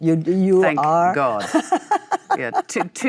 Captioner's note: Michelle laughs